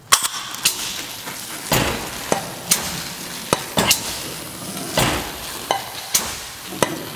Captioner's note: spraying; machine clanking